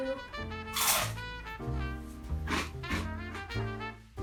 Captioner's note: toast crunching